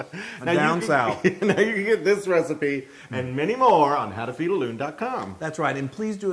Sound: laugh

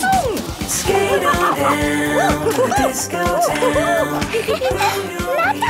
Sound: laughing and exclaiming

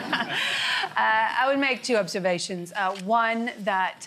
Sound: laughter

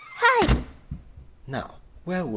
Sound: door slams

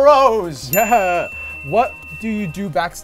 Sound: dinging

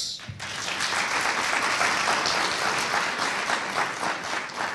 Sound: audience applauding

